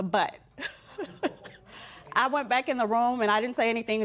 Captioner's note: laughs